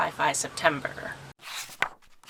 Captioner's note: pages turning